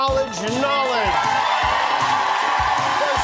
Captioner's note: applause